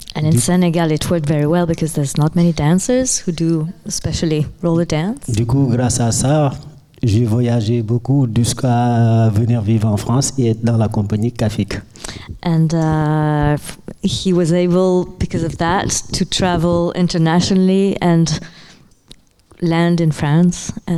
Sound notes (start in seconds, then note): 5.3 speaking in French